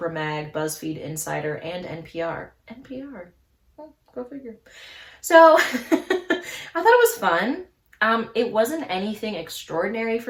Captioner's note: laughs